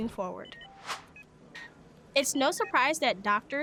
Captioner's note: air whooshes